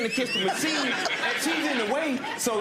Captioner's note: audience laughing